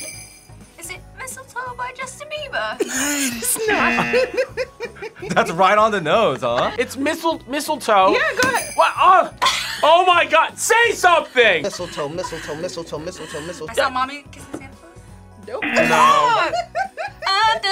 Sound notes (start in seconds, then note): 2.8 laughs; 8.4 bells jingling; 10.0 laughs; 15.8 React laughs